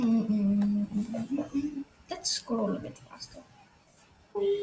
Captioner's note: humming